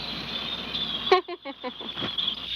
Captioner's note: laughs